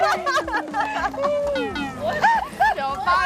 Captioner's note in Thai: เสียงหัวเราะ